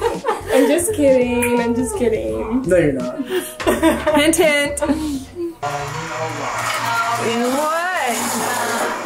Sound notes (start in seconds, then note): 5.6 blender noise; 5.8 everyone chattering